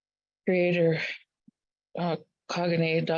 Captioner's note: speaking in Native language